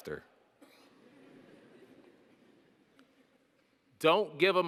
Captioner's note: audience laughing